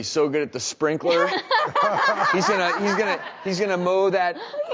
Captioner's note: laughing